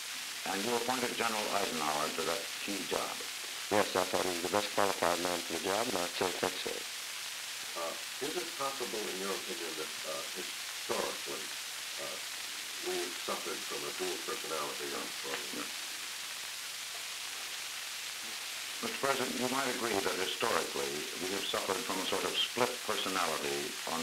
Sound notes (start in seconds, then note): 15.4 Murrow, mumbling